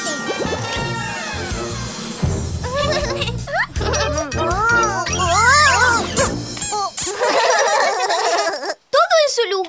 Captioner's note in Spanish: Risas